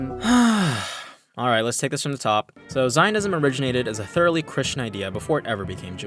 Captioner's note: sigh